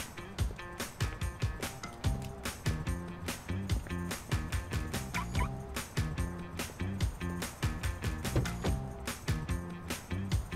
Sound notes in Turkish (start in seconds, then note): 8.2 Kapı açılma sesi